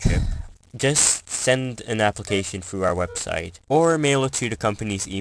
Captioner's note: NPC annoyed sigh